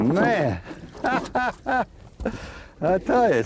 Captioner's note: laughter